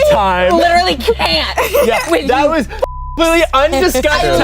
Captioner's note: beep